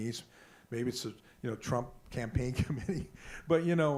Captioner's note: laughs